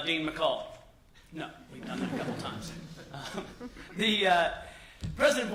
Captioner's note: laughter